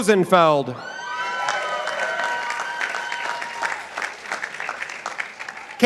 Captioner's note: participants applauding